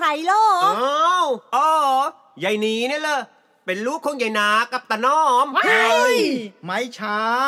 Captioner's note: screams